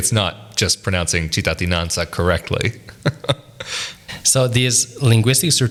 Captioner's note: laughs